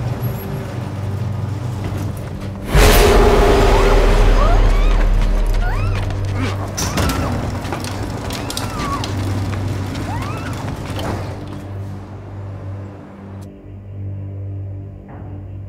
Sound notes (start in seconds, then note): 3.7 muffled screams and grunts